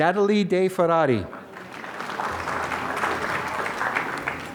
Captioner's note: applause